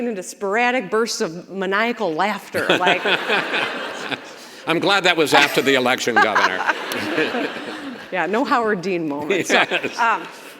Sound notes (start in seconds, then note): 2.8 Chris laughs; 5.3 governor laughs; 6.6 audience laughs